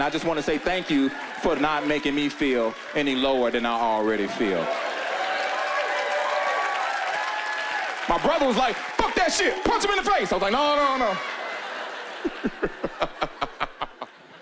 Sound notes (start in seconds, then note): 5.5 cheering and applause; 11.5 chuckling